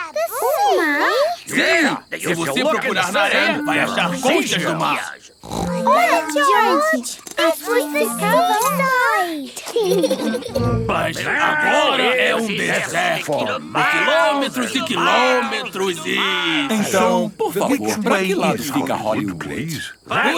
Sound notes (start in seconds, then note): 9.8 laughing